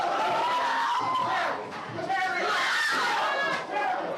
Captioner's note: screams; yelling